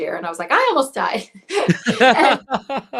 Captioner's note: laughs